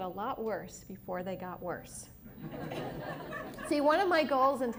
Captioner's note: laughter